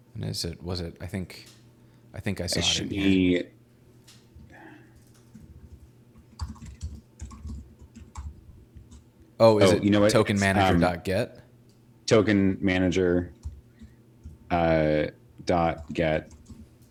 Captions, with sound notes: - Is it, was it, I think, I think I saw it-- - It should be... (sighing) (typing) - Oh, is it tokenmanager.get? - Oh, you know what, it's... Token manager .get.